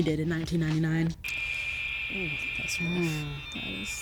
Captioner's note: dial-up connection sounds